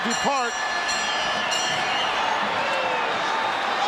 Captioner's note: bell ringing